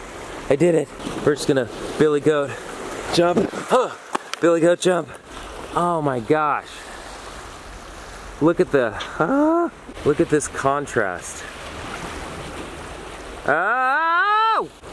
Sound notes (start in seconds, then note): 6.6 relaxing ocean